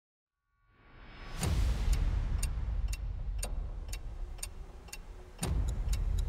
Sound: clock ticking; dramatic music

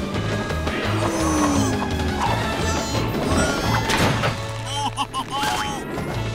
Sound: mooing

